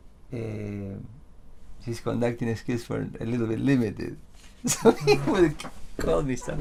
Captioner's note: laughs